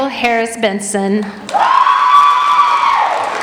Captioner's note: applauding